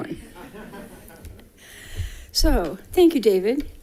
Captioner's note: people laughing